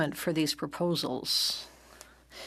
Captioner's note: speaking in French